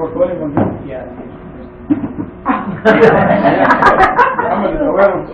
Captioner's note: gülüşmeler